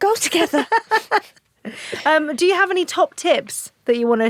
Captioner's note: laughs